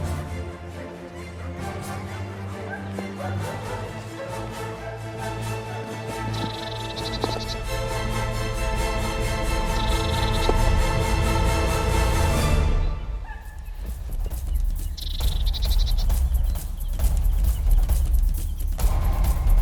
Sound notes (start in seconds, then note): 6.0 dog barking; 6.1 tense music; 15.6 shuffling